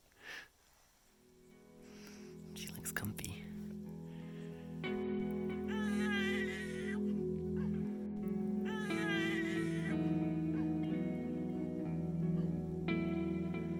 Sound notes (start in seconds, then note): 8.6 sound of baby crying